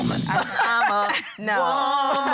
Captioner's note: laughing